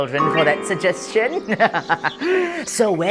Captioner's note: evil chuckle